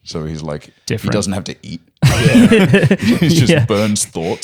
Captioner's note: laughter